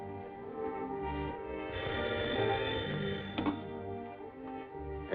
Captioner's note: phone ringing